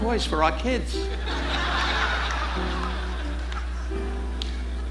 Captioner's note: audience laughing